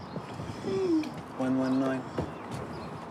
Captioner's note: none